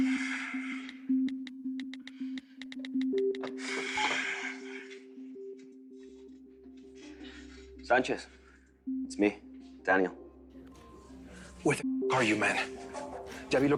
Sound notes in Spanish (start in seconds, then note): 0.9 Sonidos al marcar